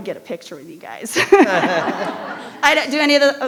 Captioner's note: laughs